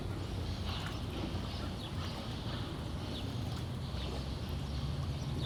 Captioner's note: birds chirping